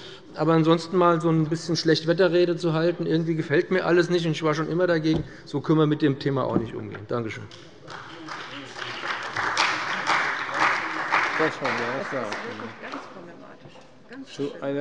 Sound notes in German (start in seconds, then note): 7.5 Beifall bei dem BÜNDNIS 90/DIE GRÜNEN und der CDU